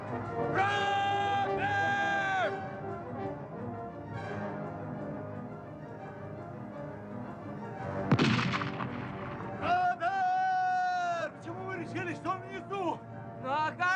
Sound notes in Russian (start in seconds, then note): 8.0 выстрел